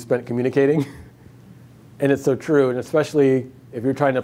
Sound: laughs

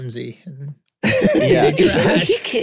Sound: group laughing

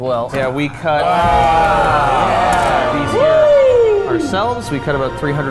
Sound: excited exclaiming

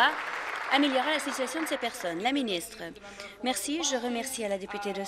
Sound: applause

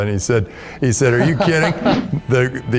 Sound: laughing

